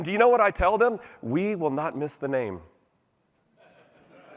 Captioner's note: laughter